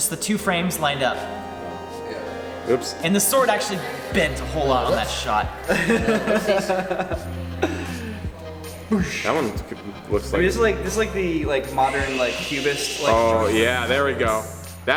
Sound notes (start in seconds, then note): 5.6 laughing; 9.1 mimics whooshing